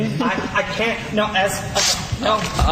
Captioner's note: paper ripping